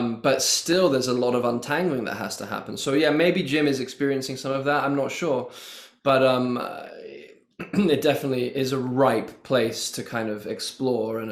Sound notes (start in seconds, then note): 7.6 clear throat